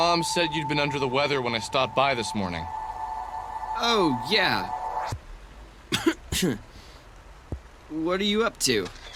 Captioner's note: cough